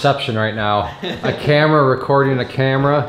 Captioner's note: laughing